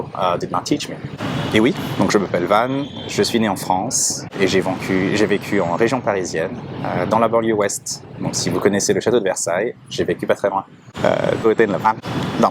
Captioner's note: speaking French